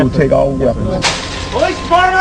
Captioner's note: window breaks